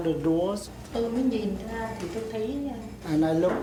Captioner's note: speaking Vietnamese